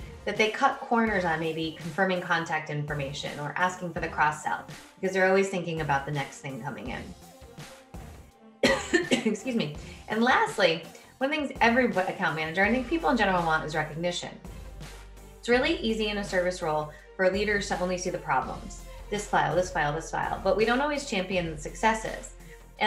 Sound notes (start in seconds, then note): 8.6 coughs